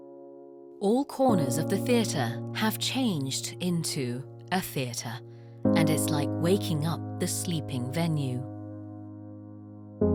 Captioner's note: voiceover